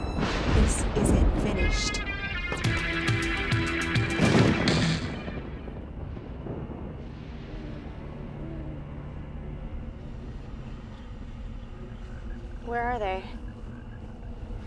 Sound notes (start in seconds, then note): 3.9 thunder crashes; 8.3 owl hoots